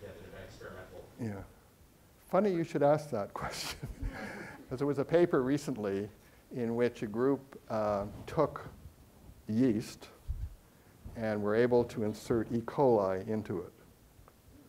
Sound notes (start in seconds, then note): 0.0 speaks faintly; 3.6 chuckling; 3.8 audience chuckling